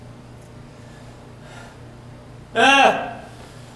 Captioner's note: sighs